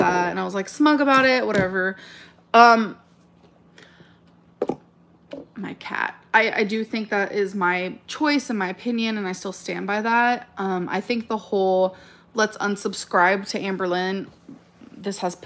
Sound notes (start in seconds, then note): 4.6 accessory rattling